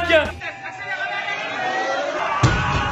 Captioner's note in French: Bruitages d'encouragements